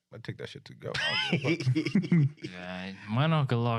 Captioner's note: laughing